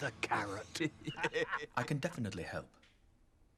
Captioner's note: men laughing